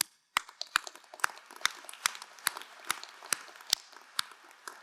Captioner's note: crowd applauding